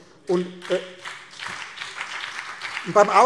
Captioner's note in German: Beifall BÜNDNIS 90/DIE GRÜNEN